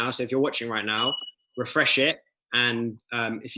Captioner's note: bell ringing